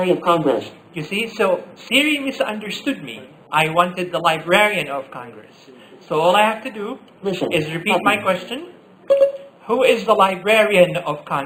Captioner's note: Siri beep